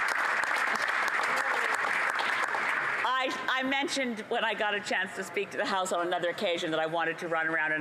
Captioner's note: applause